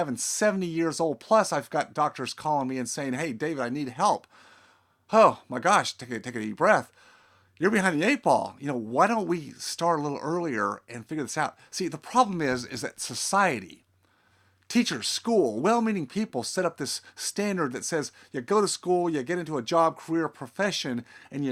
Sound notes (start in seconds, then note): 4.2 exhales